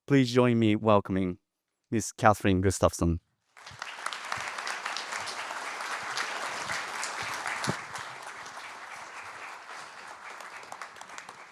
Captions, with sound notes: Please join me welcoming Ms. Kathryn Gustafson. (audience applauding)